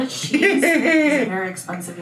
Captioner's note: laughs